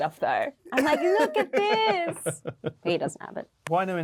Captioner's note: Luke laughing